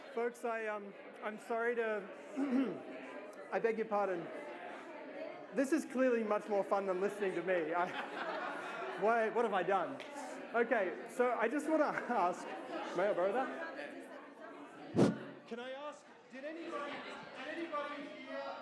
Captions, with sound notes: folks, I'm sorry to, I beg your pardon, this is clearly much more fun than listening to me. (laughter) What have I done? Okay, so I just want to ask, may I borrow that? (breath blows) Can I ask, did anybody hear